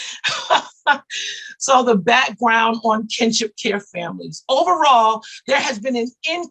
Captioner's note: laughs